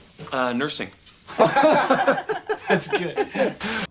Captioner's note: everyone laughing